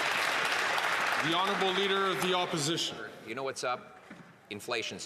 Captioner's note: some Applause